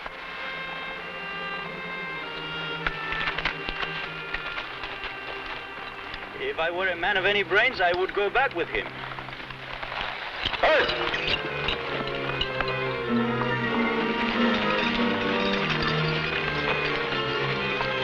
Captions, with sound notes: (somber music) - If I were a man of any brains, I would go back with him. (man shouts) (tense music)